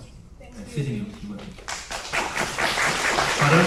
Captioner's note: applause